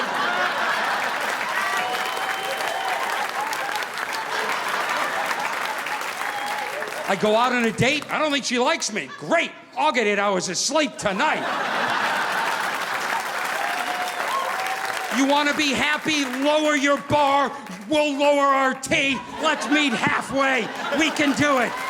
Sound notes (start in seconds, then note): 0.0 audience laughing; 0.0 audience applauding; 10.9 audience laughing; 11.2 audience applauding